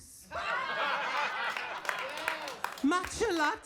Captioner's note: audience laughing